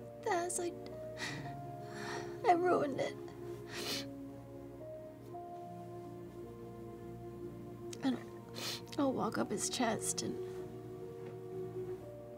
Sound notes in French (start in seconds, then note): 1.1 sanglote; 3.6 renifle; 8.5 renifle